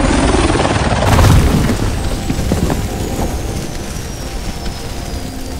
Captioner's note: helicopter crashes